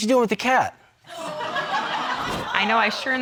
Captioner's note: audience laughing